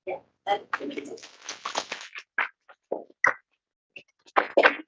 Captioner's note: attendants clapping